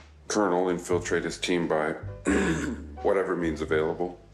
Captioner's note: clearing throat